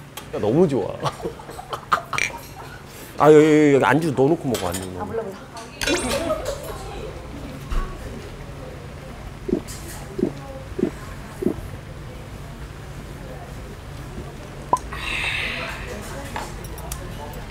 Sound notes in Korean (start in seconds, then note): 9.4 꿀꺽 / 꿀꺽 / 꿀꺽 / 꿀꺽